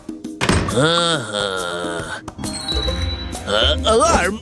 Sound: whistles

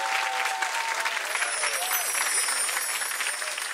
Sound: chimes

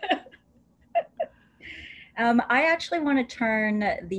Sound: laughter

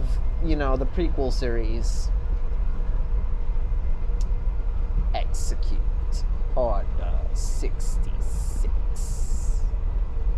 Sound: Imitating Palpatine

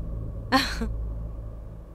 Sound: laughs

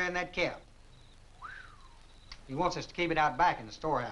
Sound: whistling

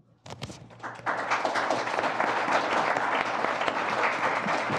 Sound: applause

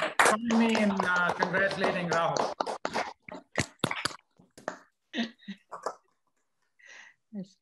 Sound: applause

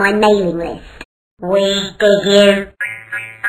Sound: Robotic voice

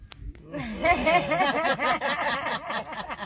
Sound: laughing

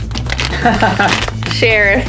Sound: laughs

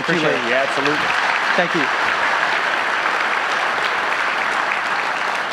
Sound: audience applauding

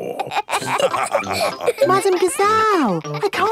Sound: all laughing

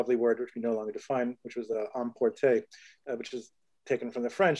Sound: speaks in foreign language

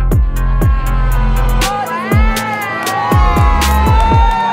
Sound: crowd applauding

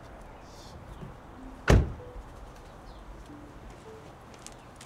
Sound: car door closes

